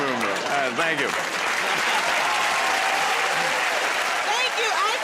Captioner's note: cheers and applause